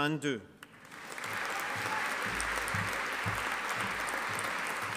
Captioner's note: audience applauding